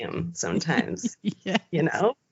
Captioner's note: both giggling